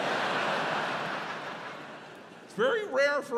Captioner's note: audience laughs